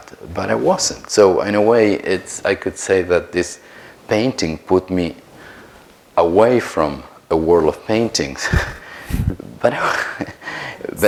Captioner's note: chuckles